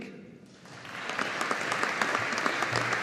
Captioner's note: audience applauding